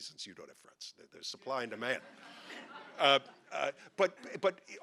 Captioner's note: audience laughing